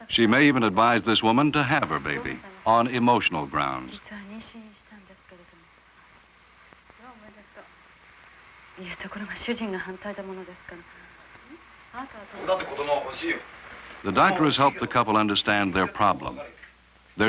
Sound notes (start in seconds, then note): 4.4 Japanese speaking